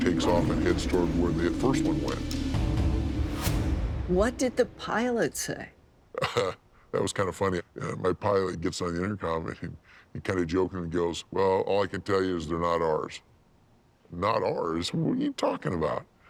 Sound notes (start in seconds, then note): 6.2 laughs